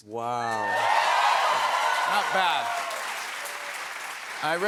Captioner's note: cheers and applause